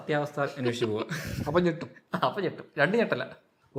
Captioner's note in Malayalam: പൊട്ടിച്ചിരി